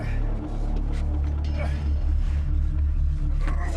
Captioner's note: Jonah groaning